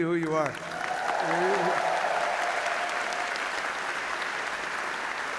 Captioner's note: audience applauding